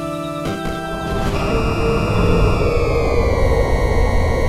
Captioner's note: Cerberus howls